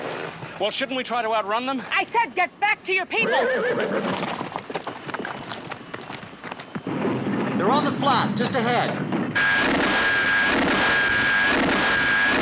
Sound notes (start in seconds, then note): 3.2 horse whinnying; 9.3 zooming